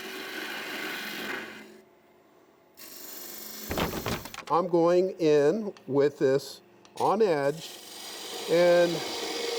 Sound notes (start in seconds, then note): 0.0 wood rasping; 3.8 wood clattering